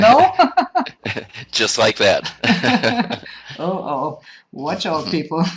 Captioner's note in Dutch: lachen